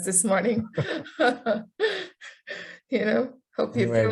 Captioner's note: laughing